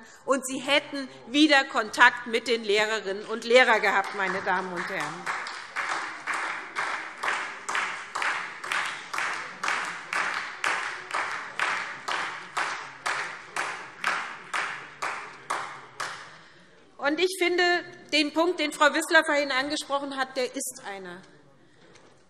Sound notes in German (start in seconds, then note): 5.1 Beifall SPD